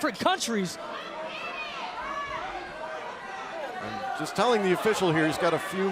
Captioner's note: crowd chatter